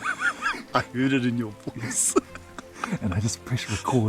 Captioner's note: laughing; laughs